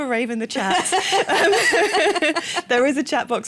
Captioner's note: laughter